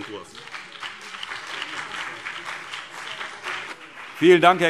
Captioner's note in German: Beifall BÜNDNIS 90/DIE GRÜNEN und CDU